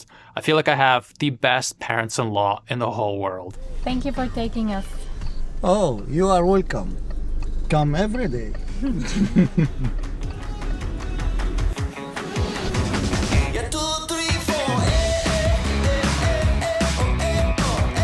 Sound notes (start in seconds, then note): 8.6 chuckle